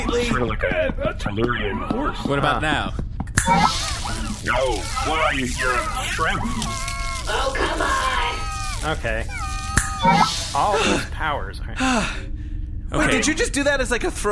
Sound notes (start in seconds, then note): 3.3 snaps fingers; 6.1 shrimp-like noises of distress